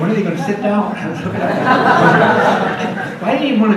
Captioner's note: audience laughs